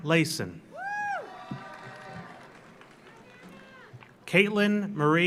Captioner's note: audience cheers; audience applauds